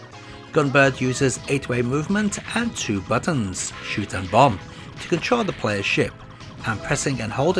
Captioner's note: shot and bomb